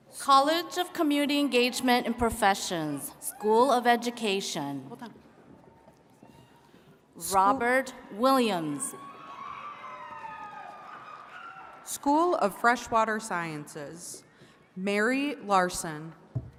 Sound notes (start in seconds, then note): 8.9 attendees cheering and clapping